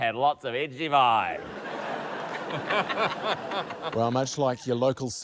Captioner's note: laughter